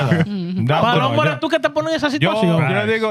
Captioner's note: speaking Spanish